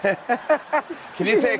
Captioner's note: laughs